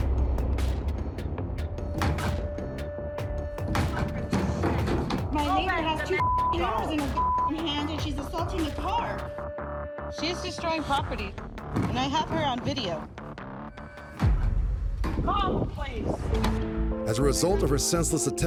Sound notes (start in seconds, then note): 0.1 tense music playing; 3.6 yelling angrily